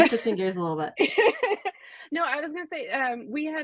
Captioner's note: laughs